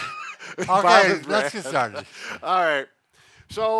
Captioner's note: both laughing